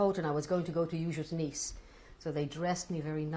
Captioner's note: non-english